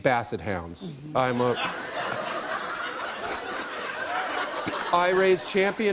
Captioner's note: laughter